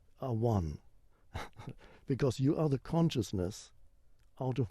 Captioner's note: chuckles